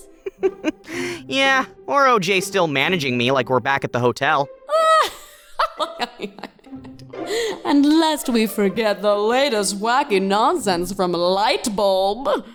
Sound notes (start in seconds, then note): 0.1 laughs; 4.9 Cabby laughs